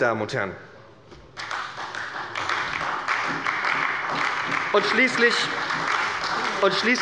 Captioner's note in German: Beifall bei der SPD